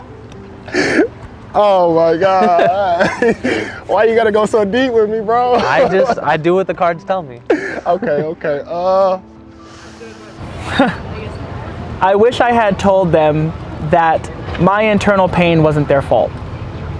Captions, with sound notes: - Oh my God. (laughing) - Why you gotta go so deep with me, bro? - I just, I do what the cards tell me. - Okay. Okay. - I wish I had told them that my internal pain wasn't their fault.